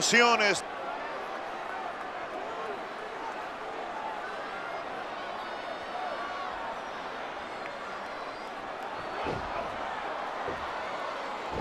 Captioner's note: applause